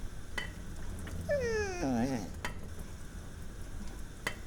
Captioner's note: Lana whimpering